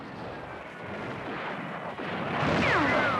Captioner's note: gunfire